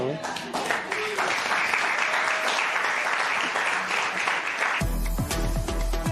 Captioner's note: applause